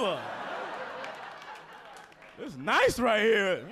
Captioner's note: audience laughing